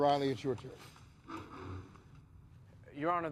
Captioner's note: chair scraping